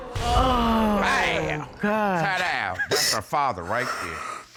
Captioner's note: audience exclaims